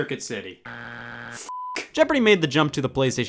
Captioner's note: buzzer beeps; beep